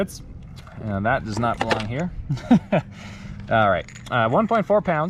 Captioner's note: laughs